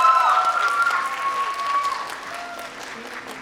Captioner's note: applause